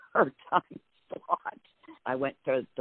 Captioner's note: laughs